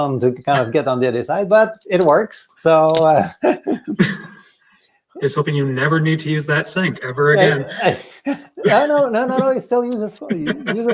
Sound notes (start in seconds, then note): 7.5 both laughing; 10.7 laughs